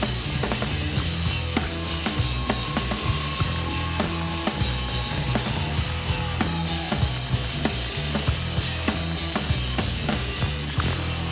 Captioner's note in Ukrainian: оплески